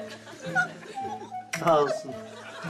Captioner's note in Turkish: Gülme sesi